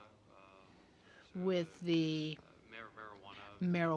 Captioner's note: speaking French